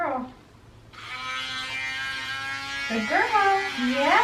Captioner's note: drilling